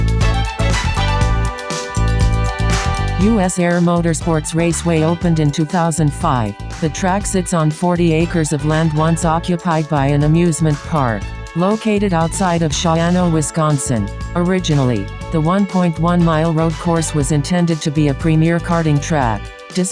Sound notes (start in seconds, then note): 0.0 disco music; 3.5 computer Voice